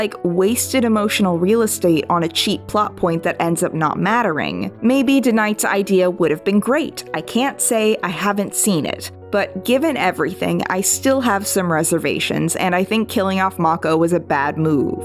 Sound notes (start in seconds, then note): none